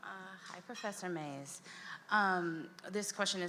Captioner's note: voiceover